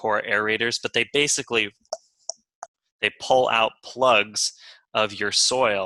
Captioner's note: clicking